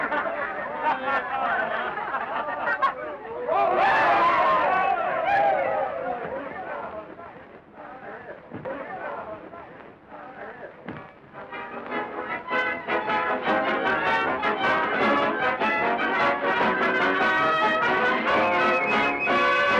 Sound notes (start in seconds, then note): 3.3 shouting; 11.3 instrumental music